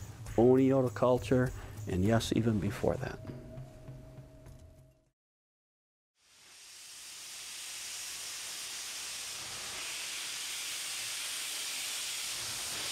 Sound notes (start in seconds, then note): 8.0 steam whooshing